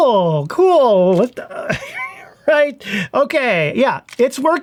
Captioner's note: grunts